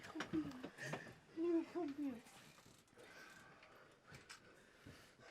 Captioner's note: Andrea speaks French